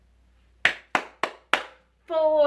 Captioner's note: woman clapping